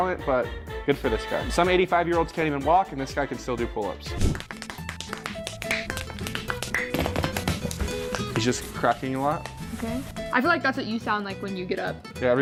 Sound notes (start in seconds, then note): 4.2 fingers cracking